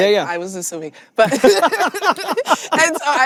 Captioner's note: both laughing